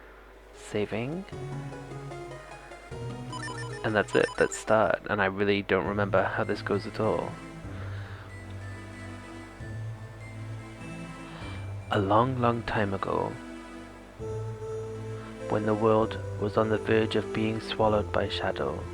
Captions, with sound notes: saving and that's it! let's start. and i really don't remember how this goes at all. [narrator voice] a long, long time ago, when the world was on the verge of being swallowed by shadow,